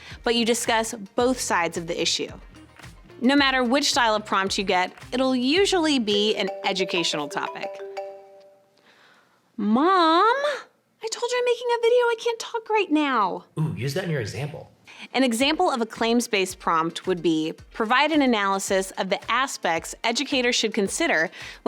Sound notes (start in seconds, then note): 6.3 phone ringing